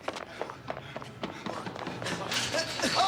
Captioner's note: groaning